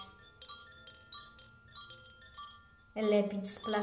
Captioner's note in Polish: dźwięk dzwonków